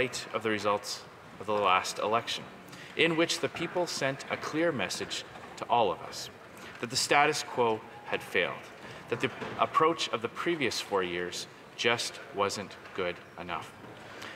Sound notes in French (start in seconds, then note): 1.5 voix de l'interprète